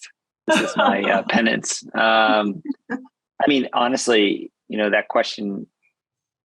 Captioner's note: chuckling in the background